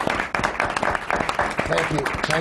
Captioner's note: applause